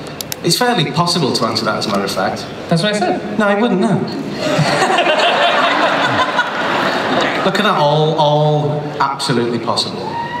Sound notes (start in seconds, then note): 4.4 laughter